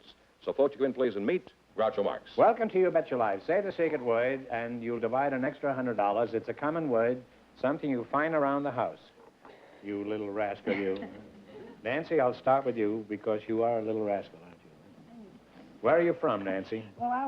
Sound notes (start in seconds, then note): 10.6 laughs